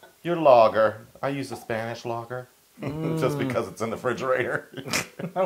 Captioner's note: laugh